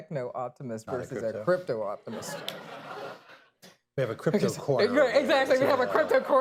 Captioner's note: laughter